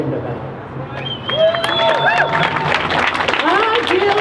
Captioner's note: crowd cheers